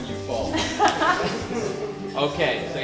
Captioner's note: laughs